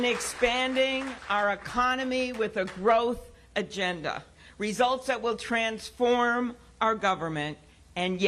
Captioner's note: applause